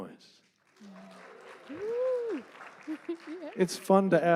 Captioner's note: sparse applause